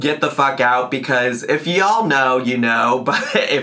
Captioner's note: laughs